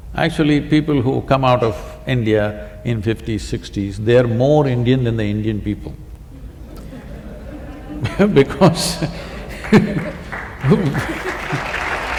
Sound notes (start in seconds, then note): 6.4 laughter/Applause